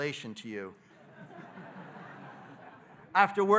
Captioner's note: audience laughing